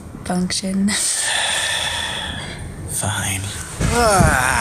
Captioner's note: huge sigh